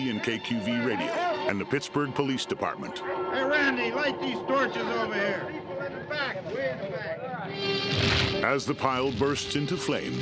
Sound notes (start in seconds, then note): 1.6 officers chattering indistinctly; 7.4 dramatic music; 10.0 fire crackling